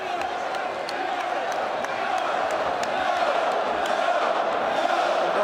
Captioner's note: audience jeers